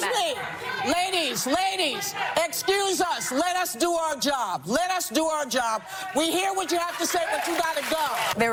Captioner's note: chanting